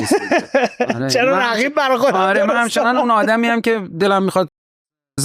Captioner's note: laughs